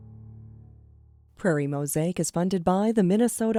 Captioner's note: voiceover